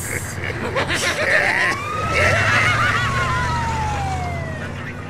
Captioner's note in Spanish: Se Ríe